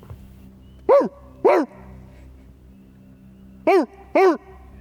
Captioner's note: barking